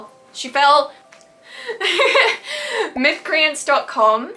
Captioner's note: laughs